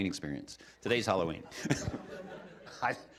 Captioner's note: laughter